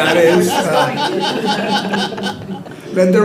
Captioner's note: board members laughing